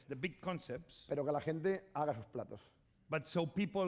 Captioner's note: speaking spanish